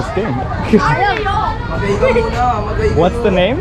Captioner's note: foreign language